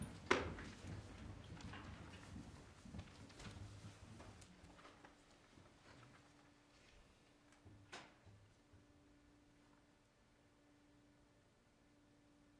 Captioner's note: moment of silence